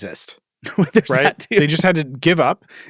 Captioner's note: laughs